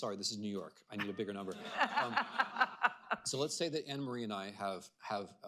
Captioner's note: laughter